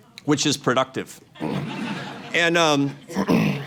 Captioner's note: laughter